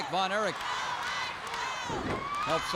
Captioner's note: crowd chants "Go, Ice, go"